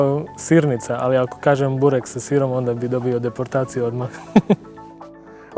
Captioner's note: laughter